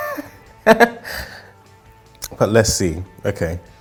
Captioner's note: laughing